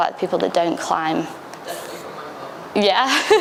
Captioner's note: laughs